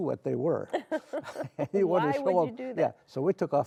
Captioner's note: laughs